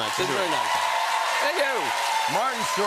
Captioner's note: cheers and applause